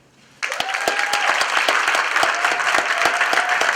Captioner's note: applause